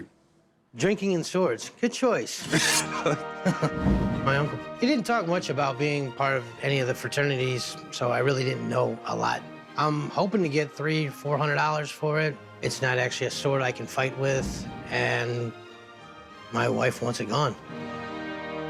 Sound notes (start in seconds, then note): 2.4 sheathing sword